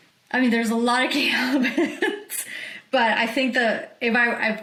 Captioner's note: laughs